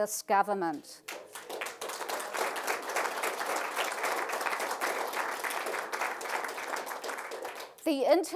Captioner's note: applause